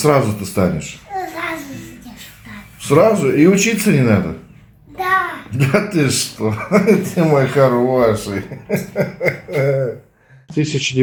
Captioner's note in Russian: смех